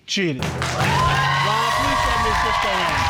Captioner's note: audience cheers